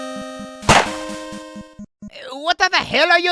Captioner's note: cheerful chiptune music; gunshot bangs